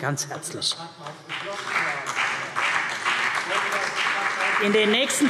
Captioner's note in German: Beifall CDU und BÜNDNIS 90/DIE GRÜNEN - Zurufe